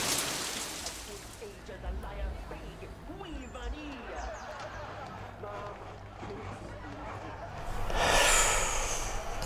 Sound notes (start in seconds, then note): 2.6 morning birds; 3.2 tv comedy show playing in the distance; 6.2 comedy tv show playing loudly and washing machine